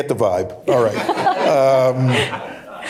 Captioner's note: laughter